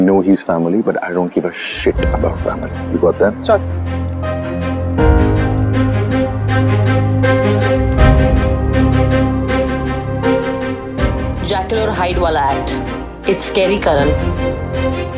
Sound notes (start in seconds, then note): 5.3 Camera click